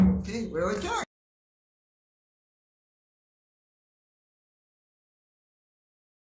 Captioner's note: gavel thuds